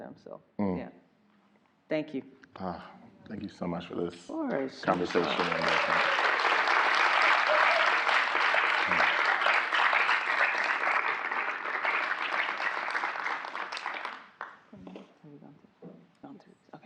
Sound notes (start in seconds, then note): 5.4 audience applauding